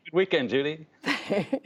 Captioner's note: laughter